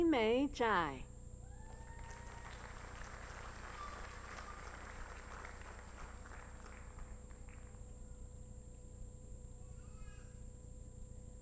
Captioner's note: applause